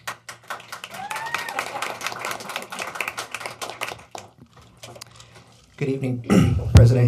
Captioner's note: applause